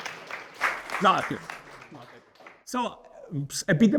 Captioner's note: audience cheering